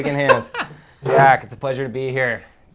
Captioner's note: laughs